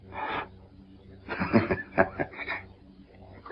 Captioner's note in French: rigole